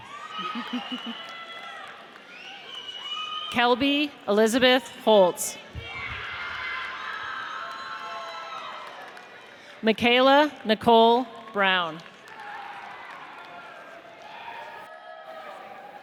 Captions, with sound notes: (audience cheers) Kelbi Elizabeth Holz. (audience cheers) Michaela Nicole Brown. (audience cheers)